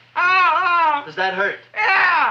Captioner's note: Seymour screaming